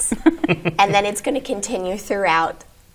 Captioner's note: guests chuckle